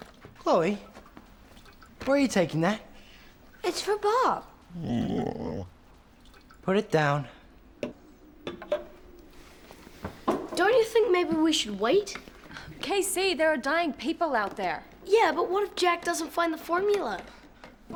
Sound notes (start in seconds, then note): 4.7 dog whines